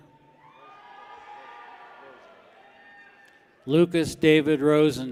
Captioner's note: people cheer